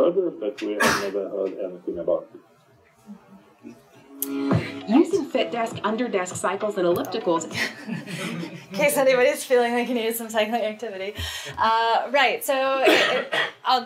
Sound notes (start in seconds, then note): 4.0 upbeat music; 7.4 laughing